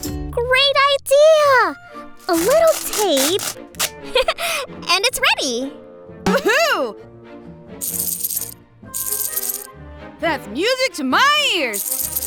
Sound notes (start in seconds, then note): 7.9 rattling